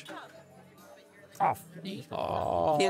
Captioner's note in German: Erstaunte Laute